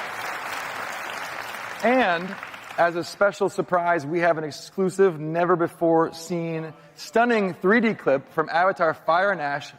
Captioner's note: applause